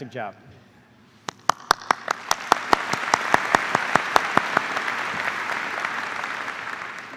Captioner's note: applause